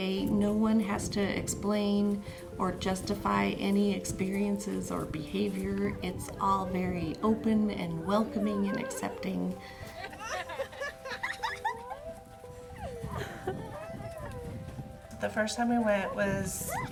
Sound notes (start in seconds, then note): 9.8 laughing